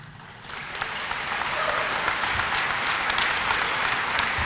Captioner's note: applause